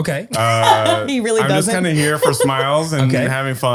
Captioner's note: laughs